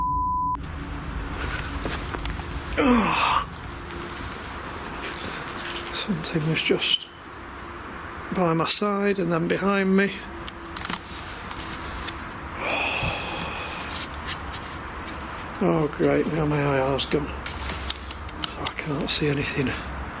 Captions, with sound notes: Oh. (beep) (grunt) Something was just by my side and then behind me. Oh, great, now my IR's gone, so I can't see anything.